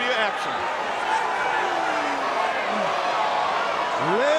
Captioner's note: crowd cheering